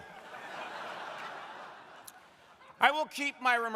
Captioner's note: crowd laughing